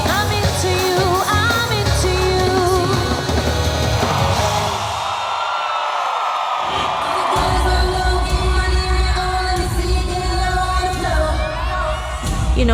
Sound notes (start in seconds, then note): 4.7 audience cheering